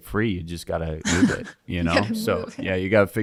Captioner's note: laughing